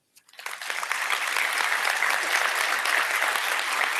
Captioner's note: applause